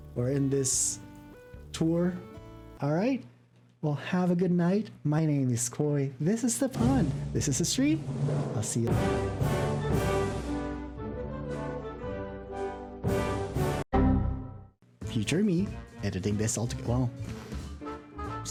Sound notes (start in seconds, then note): 6.7 drum rolls; 14.0 error sound